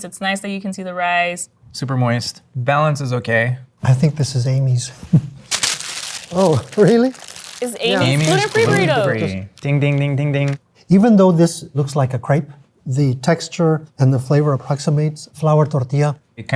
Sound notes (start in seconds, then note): 5.4 wrapper crunching